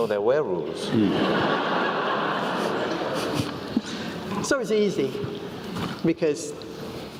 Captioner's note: laugh